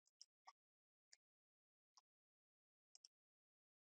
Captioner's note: mouse clicks